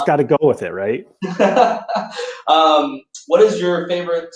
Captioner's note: laughter